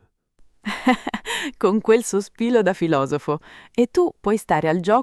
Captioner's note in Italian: Haha